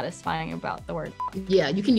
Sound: beep

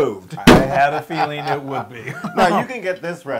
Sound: laugh

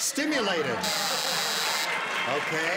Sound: buzzer sounds

